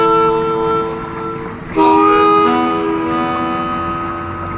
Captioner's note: water burbling